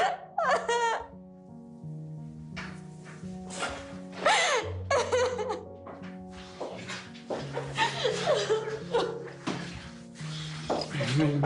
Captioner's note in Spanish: Sollozos